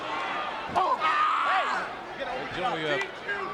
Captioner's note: Rhyno screams